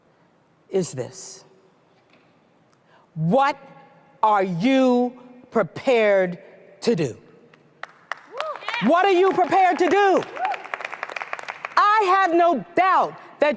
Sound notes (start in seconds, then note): 10.4 applause